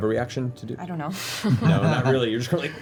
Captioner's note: laughs